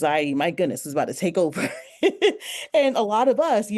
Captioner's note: laughs